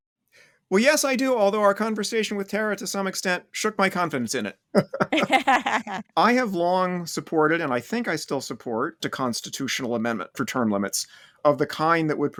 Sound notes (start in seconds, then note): 4.8 laughter